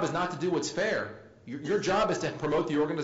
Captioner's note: laugh